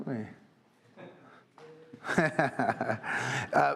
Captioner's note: laughter